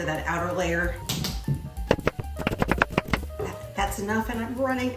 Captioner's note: board tapping